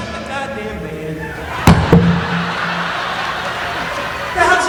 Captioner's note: audience laughing; mic thudding on floor